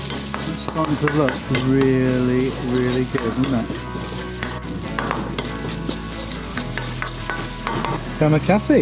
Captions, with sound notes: It's starting to look really, really good, isn't it? [sizzling] It's going to be a chassis.